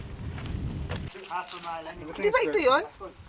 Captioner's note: crew chattering